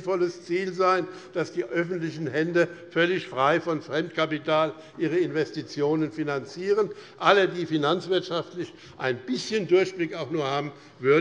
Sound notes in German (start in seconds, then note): none